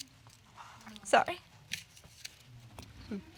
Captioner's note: voice shaking